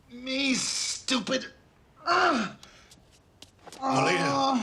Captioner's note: groans